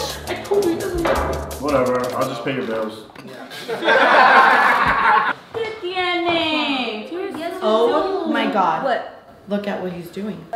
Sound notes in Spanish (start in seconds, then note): 3.5 chicos riendo